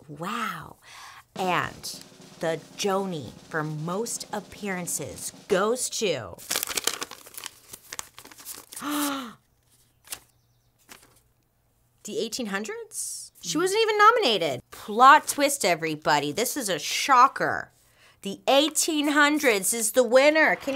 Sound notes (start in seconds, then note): 6.4 paper rustles; 9.0 gasps